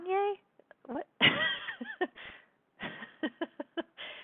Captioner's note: laughing